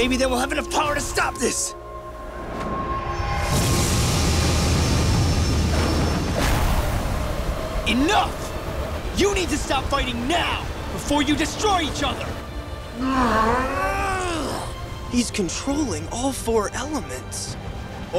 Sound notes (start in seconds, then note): 13.0 grunting